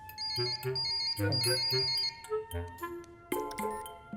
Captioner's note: phone ringing